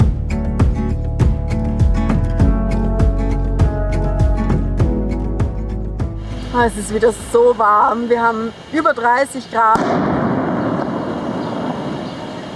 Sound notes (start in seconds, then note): 9.8 loud cracking